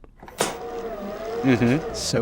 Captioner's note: tape whirring